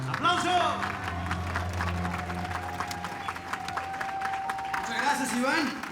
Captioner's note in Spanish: Arengas del público